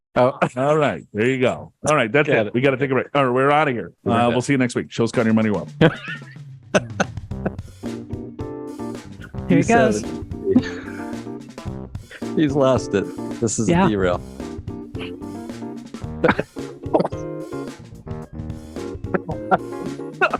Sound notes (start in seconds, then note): 5.8 cut to cracking up; 16.2 laughing